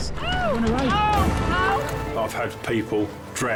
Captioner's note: patient yells